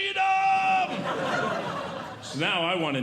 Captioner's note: audience Laughing